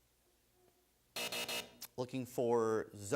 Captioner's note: buzzer sounds